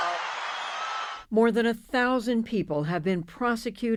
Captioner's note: cheering